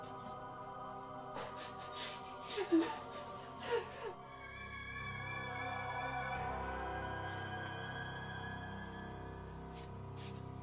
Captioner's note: Ronnie sobbing